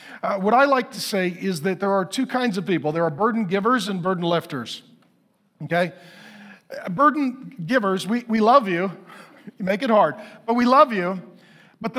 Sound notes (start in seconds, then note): 8.6 chuckles